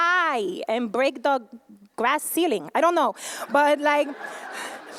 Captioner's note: laughter